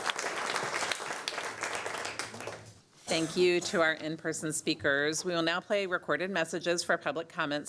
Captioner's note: applause